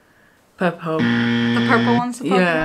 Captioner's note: buzzer blares